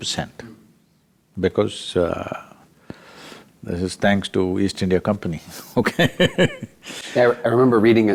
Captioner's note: laughs